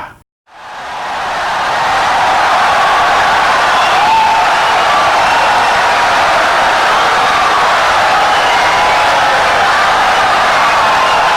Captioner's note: wild applause and cheering for 17 seconds